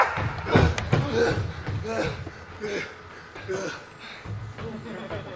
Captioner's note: Friar shouts; heavy breathing